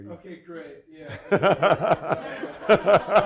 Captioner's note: audience laughing